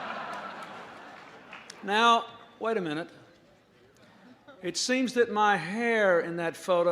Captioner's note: laughter